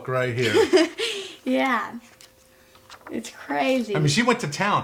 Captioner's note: laughing